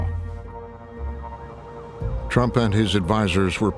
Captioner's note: sirens blaring